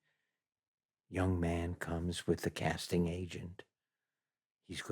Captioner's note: speaks softly